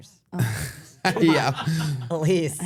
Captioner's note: group laughs